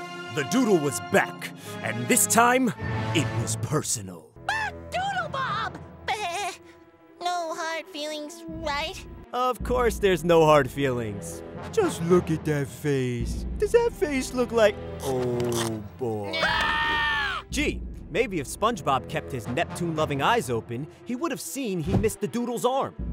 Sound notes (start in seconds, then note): 16.2 screaming